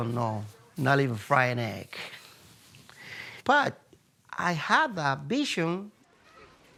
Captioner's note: laughs